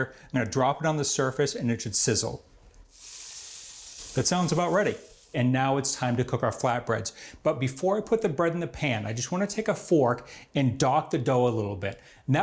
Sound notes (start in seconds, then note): 2.8 water sizzles